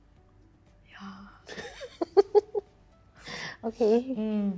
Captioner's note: laughing